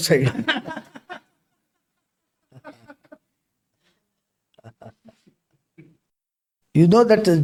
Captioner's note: laughs